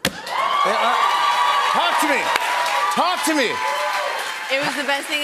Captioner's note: cheers and applause